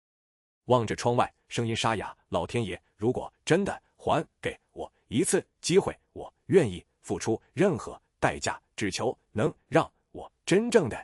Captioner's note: looking out the window, voice hoarse